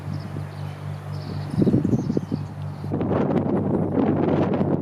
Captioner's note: wind blowing